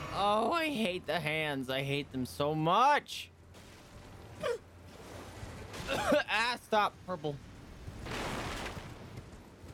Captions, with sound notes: Oh, I hate the hands; I hate them so much! *coughing* Ah, stop; purple.